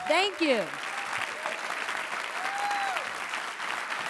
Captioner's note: clapping